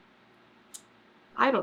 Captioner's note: sucks teeth